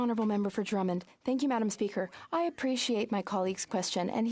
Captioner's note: speaking French